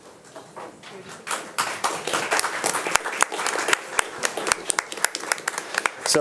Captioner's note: audience applauding